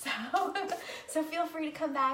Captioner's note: laughing